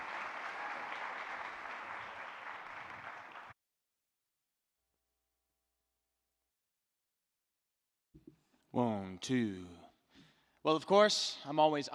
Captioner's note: clapping; cheering